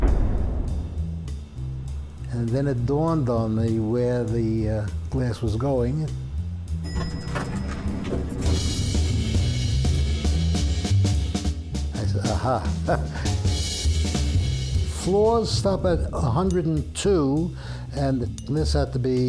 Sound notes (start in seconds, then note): 6.8 bell dinging; 9.5 upbeat jazz music